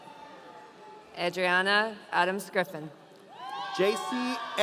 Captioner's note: audience cheering